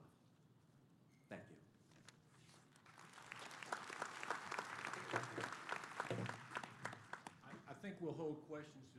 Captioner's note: applause